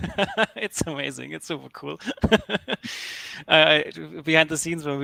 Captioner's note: laughs